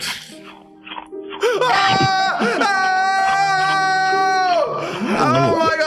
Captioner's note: Dan yells and Phil laughs